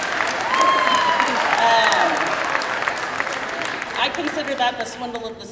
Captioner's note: crowd cheering